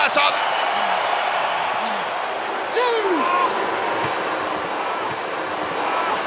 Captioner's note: applause